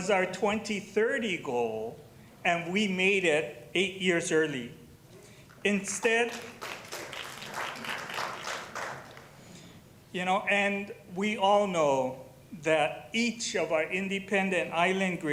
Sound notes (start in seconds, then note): 6.0 applause